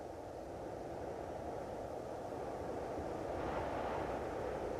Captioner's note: wind softly humming